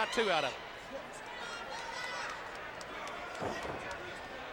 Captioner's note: audience cheers